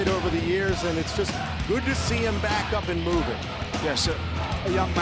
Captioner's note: crowd cheering